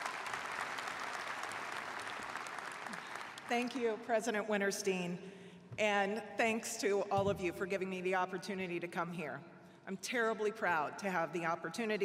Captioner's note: applause